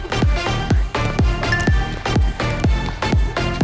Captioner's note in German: Helles Klingeln